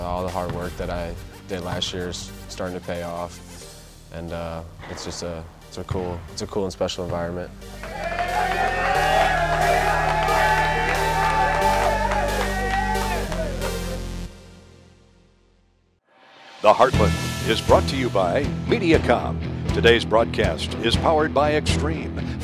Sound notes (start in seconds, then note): 7.7 cheering